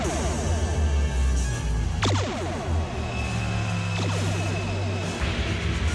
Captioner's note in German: Torpedo-Schüsse; dramatische Musik